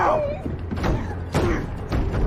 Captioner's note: sobbing; grurunting